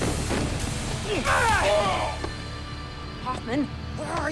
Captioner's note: man in bandana cries out